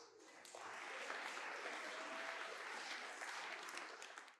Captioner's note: applause